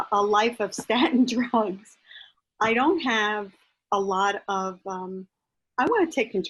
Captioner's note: laughs